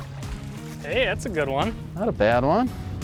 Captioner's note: pat